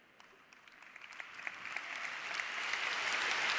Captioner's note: audience applause